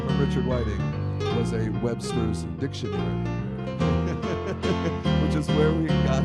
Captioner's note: laughs